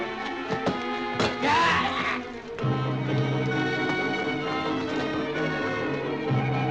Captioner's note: thwacking; officer shrieking